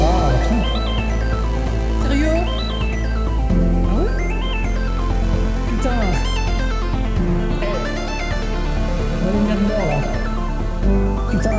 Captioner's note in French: Angry Noises